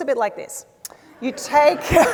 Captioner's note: laughter